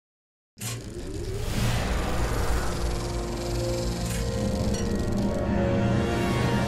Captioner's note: projector sound